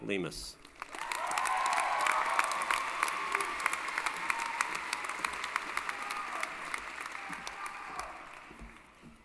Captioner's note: applause